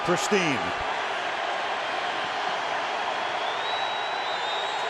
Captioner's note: crowd cheering